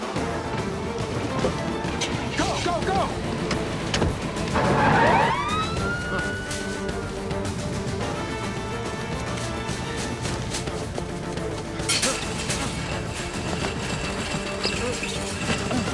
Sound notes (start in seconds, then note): 4.4 siren wails